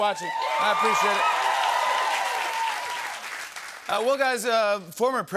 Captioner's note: cheers and applause